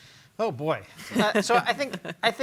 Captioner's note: panelists laugh